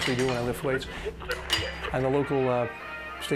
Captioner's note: radio tuning